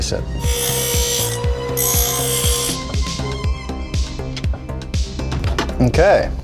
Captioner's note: upbeat music; grinder buzzing